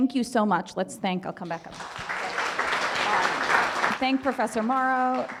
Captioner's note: audience applause